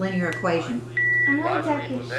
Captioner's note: beeping